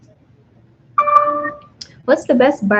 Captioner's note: computer dings